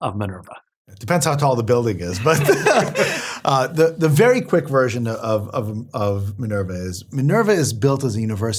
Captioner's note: laugh